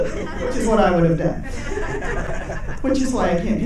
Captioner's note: audience laughing